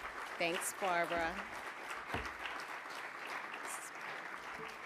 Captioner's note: audience applauding